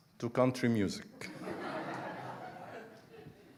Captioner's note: audience laughing